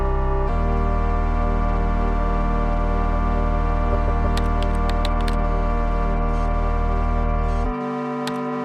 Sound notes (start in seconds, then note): 1.1 gentle music continues; 4.3 keyboard keys tapping